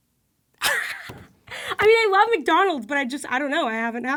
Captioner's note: wheezes